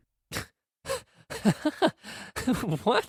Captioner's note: laughs